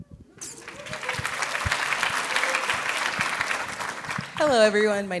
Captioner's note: audience clapping